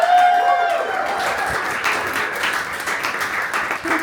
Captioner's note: audience cheering